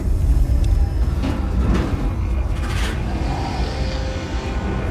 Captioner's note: metal clanking